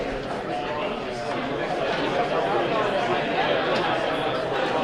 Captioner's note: audience chattering